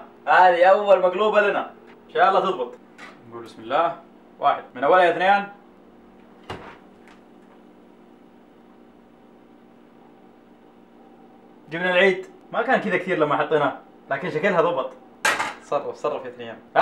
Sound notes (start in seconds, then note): 7.3 moment of silence